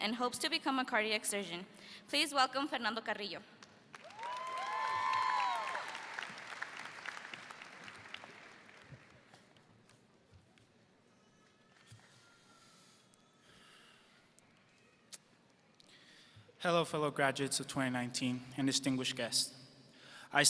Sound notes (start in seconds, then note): 4.0 audience cheers